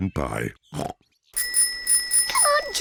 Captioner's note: snorts; bicycle bell rings